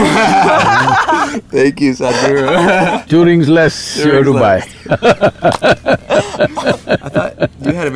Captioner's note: interviewers laugh; laughs; laughter